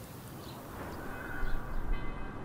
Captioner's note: church bells